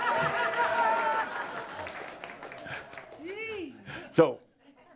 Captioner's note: chuckles and more audience laughter and some applause